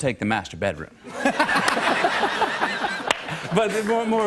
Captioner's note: laughter